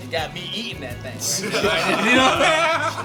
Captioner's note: laughter